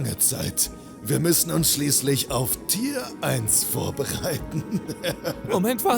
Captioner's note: laughs